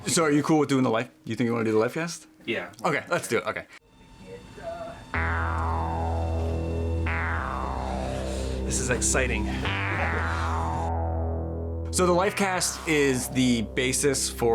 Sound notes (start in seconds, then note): 7.7 electronic music; 8.6 laughing